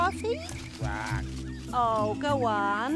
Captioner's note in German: Commander grunzt desinteressiert